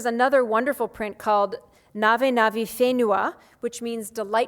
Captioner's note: speaks foreign language